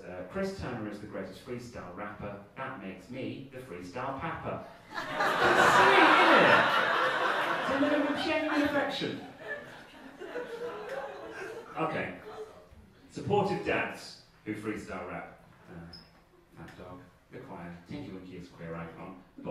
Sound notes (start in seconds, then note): 4.7 audience laughing; 9.8 audience laughing